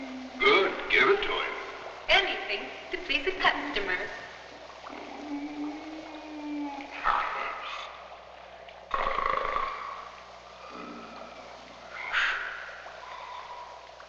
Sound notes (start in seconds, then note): 4.8 moaning; 7.0 grunting; 8.9 liquid bubbling